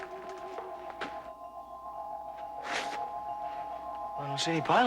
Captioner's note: crystal chiming